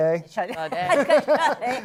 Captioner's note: laughter